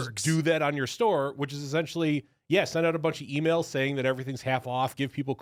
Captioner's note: none